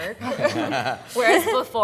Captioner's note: panelists laughing